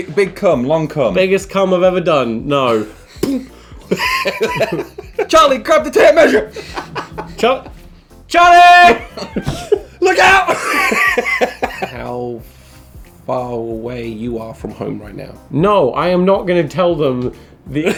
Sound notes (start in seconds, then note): 3.2 imitating bottle popping; 3.8 laughing; 10.9 laughing; 17.7 laughing